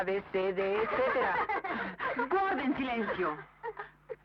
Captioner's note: laughter